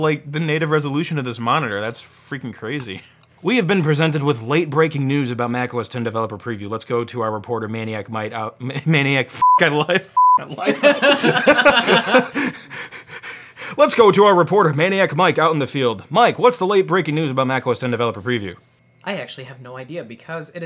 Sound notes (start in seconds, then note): 9.4 beep; 10.4 both laughing